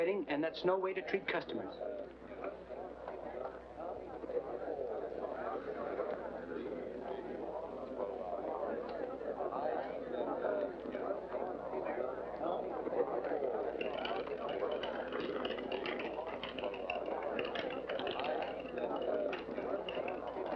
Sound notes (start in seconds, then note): 3.2 background chatter; 13.7 wheel chattering; 19.0 background chatter